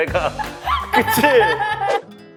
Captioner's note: laughs